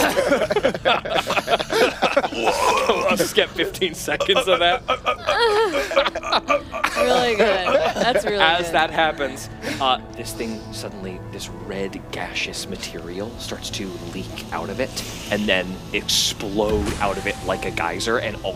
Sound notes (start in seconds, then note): 0.3 Laughing at Jethro; 7.1 Jethro being stunned noises